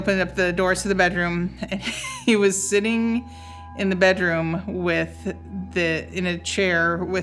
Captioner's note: chuckles